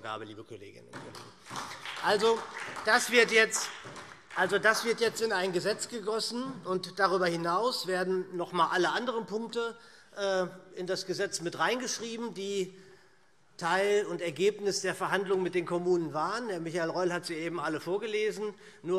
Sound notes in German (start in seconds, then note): 0.9 Beifall SPD